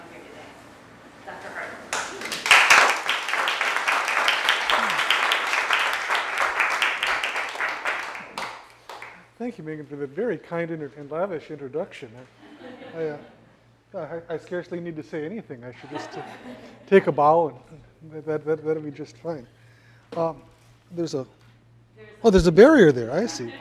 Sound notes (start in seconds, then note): 5.0 applause; 8.4 laugh